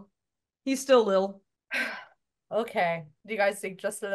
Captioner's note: sighs